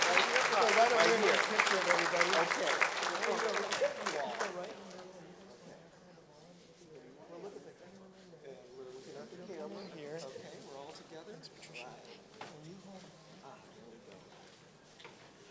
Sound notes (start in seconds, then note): 0.0 applause